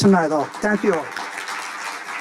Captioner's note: audience applauding